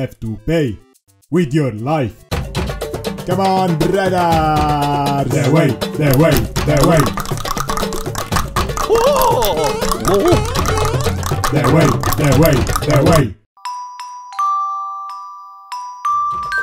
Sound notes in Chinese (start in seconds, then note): 2.0 召喚bgm再次響起; 11.0 大量彈舌